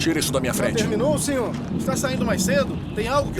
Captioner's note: journalists chatting